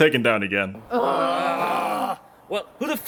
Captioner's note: everyone sighs